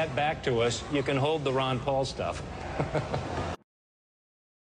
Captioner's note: chuckles